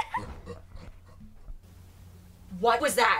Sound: child laughing; deep voice laughing

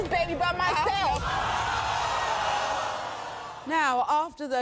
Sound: audience boos and yells

